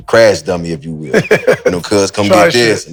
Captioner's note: Maverick laughs